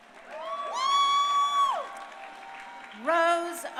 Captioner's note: crowd cheering